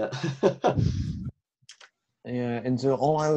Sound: laughs

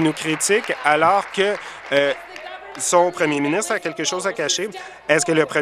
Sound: applause

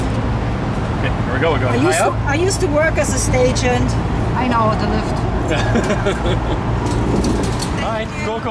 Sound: laughter

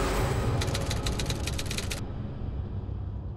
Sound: typewriter keys click

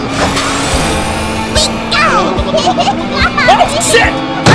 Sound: shivering

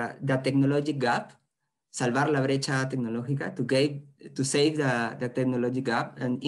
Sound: speaking spanish

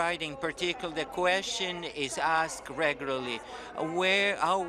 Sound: speaking in French

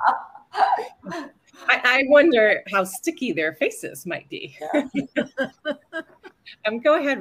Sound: laughter

